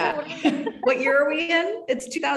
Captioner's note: both laughing